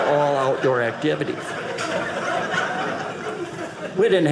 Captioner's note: audience laughing